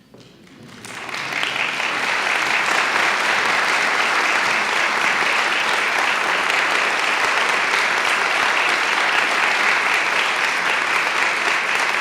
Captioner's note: applause